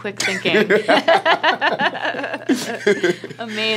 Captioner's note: laughing